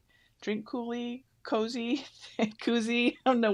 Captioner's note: laughs